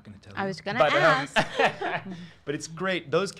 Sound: laughter

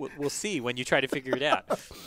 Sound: laugh

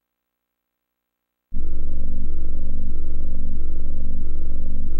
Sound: 32-bit console startup sounds

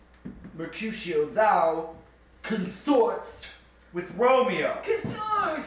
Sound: spoken with deaf lisp

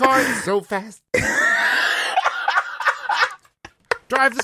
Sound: laughter

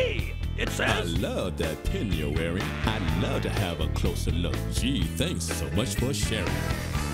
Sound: reading letter aloud

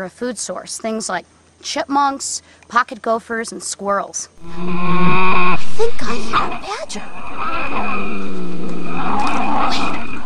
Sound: badger Noise

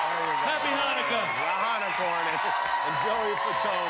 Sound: cheers and applause

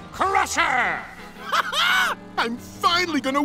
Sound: laughing

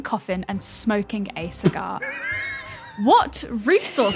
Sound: wheezes

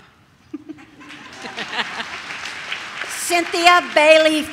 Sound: audience laughs and claps

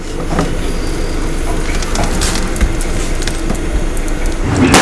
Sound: ice cracking

